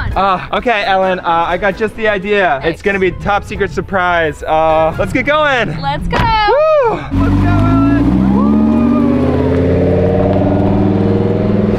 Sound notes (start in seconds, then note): 6.1 car door slams; 7.5 car engine roaring